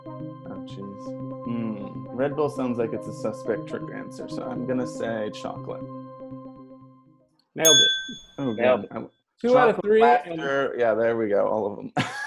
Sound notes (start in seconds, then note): 7.6 bell rings; 11.9 collective laughter